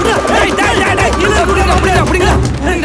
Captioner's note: raised voices